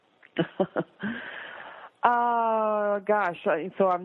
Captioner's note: laughs